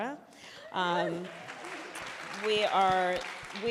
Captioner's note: applause